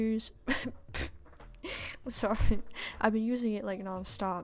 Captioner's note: snorts & giggles